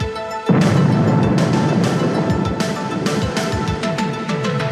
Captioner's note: explosion booming